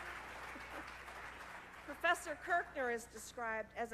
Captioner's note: applause